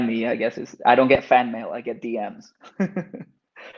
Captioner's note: laughs